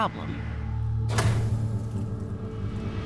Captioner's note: switch clicks